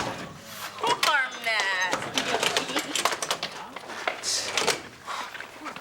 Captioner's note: lockers closing